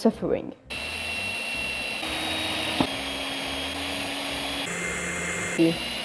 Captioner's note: drilling